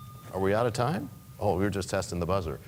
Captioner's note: bell rings